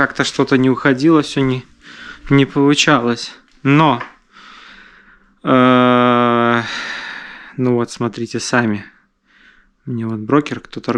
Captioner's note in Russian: вздыхает